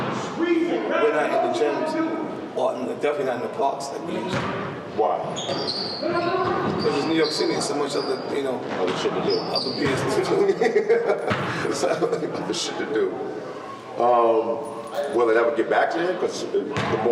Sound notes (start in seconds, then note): 10.3 laughter